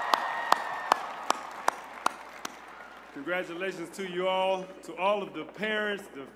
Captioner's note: cheers and applause